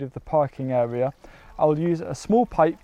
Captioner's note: water trickles